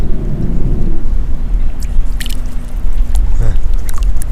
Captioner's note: clam splashing